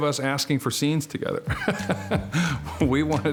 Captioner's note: laughs